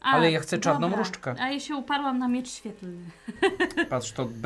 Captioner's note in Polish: śmiech